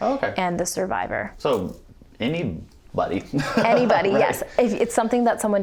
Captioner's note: chuckles